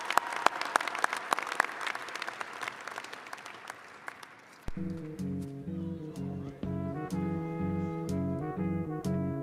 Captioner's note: applause